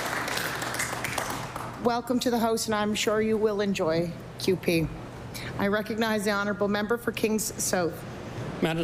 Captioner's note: applause